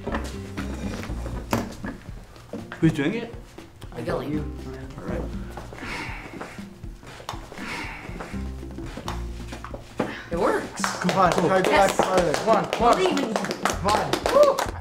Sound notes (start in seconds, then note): 10.7 applause